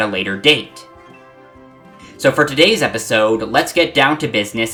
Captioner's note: breathe